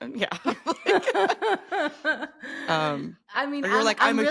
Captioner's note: both laughing